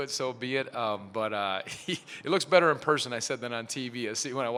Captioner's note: chuckles